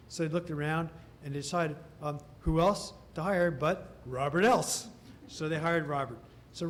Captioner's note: laughter